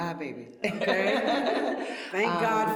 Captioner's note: laughter